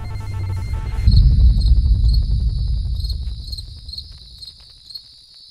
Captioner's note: dramatic distorted sound; crickets chirping